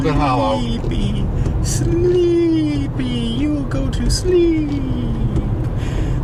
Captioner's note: whispering